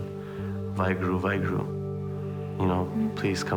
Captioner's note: speaking foreign language